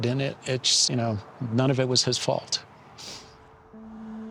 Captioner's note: sniffs